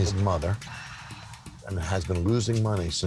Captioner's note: sighing